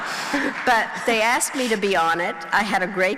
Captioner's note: crowd laughing